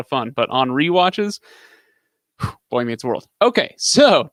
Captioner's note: exhales